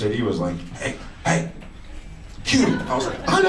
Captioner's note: whispering